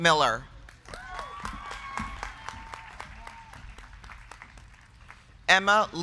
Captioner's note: crowd clapping; crowd cheering